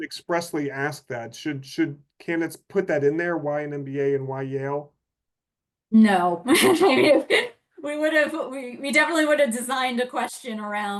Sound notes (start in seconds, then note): 6.5 laughs